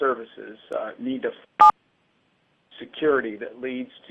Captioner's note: beeping